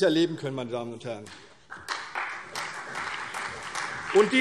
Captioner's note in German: Beifall CDU und BÜNDNIS 90/DIE GRÜNEN